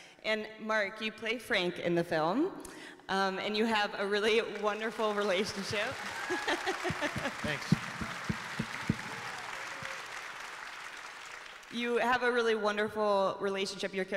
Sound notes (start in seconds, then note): 6.0 laughs; 6.1 audience applauding; 8.5 people cheering